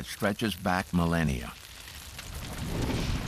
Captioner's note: fire crackling